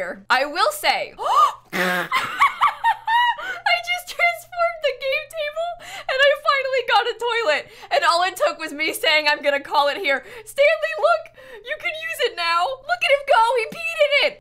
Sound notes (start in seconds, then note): 3.4 gasps